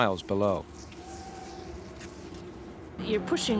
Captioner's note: wind whispering